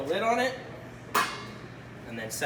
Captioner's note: metal lid clangs